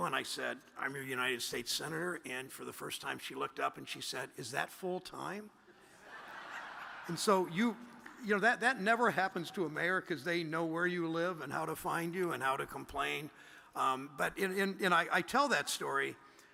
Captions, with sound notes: And I said, "I'm your United States senator." And for the first time she looked up and she said, "Is that full-time?" (audience laughs) And so you know, that never happens to American's. They know where you live and how to find you and how to complain and I tell that story